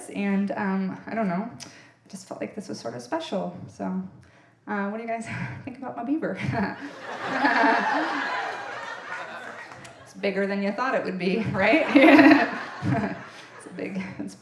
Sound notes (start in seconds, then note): 6.5 chuckles; 9.4 audience laughing; 11.6 chuckles